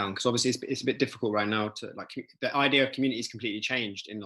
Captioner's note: none